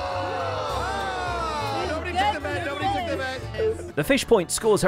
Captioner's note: crowd cheering